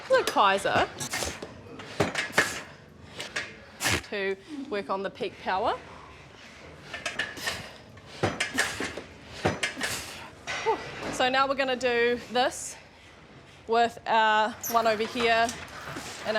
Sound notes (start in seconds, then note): 2.3 exhales rhythmically, machine clatters; 9.8 exhales